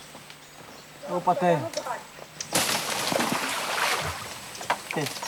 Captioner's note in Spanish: <i>hablan en portugués</i>